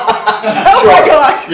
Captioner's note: laughing